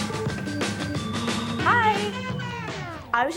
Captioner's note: sighing